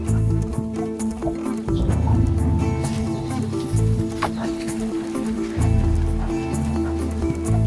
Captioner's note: nerwowe odgłosy niedźwiedzicy, odgłosy gonitwy